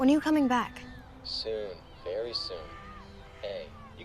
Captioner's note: on phone